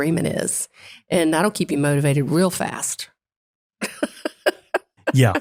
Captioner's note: laugh